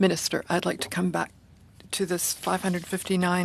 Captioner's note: speaking French